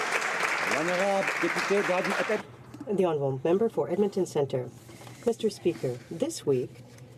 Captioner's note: some Applause